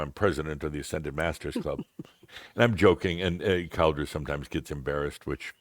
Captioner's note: softly chuckles